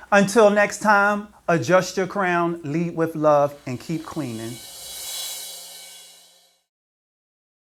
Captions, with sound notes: ^Until next time, adjust your crown, lead with love ^and keep cleaning. (whooshing sound)